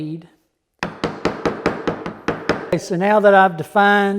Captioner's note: hammer banging